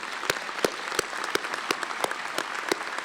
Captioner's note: applause